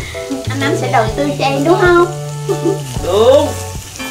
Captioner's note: laugh